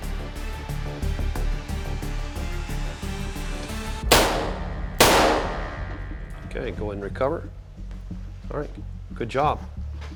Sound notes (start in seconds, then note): 1.7 suspenseful music; 4.1 gun fire